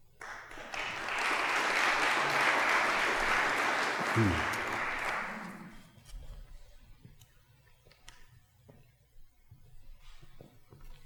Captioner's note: applause